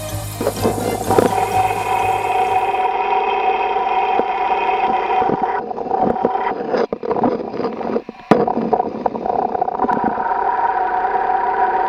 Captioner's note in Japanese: 聴診器の音